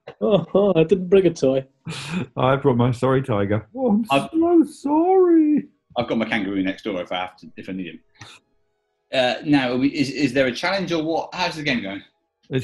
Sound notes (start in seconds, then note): 3.9 falsetto